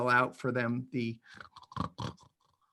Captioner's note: snors